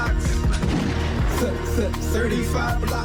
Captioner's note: gunshot